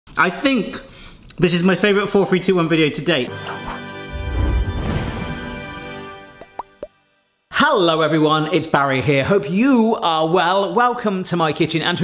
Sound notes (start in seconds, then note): 3.2 uplifting music; 6.3 bubbles popping